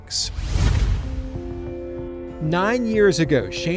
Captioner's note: logo whooshes